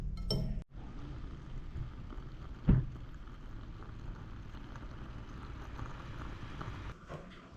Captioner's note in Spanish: bote moka burbujando